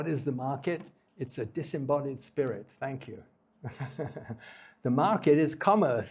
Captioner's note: laughs